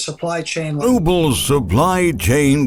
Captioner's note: speaking in foreign language